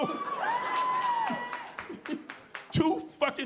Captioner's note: audience cheering